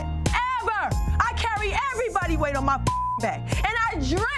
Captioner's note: beep